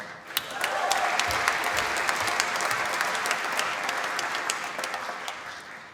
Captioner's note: applause